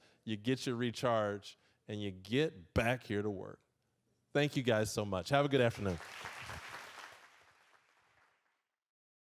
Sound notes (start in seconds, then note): 5.6 applause